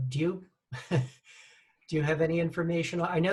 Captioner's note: chuckles